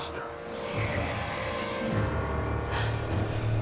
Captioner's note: ghoul growls; dark ominous music